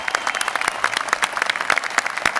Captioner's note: applause